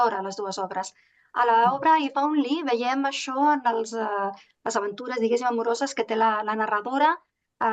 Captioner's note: continues speaking in Catalan